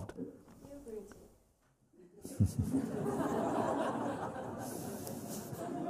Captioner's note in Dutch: gelach